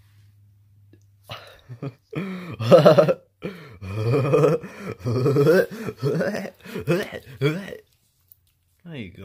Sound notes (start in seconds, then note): 2.3 laughs maniacally